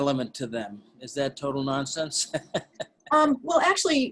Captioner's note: laughing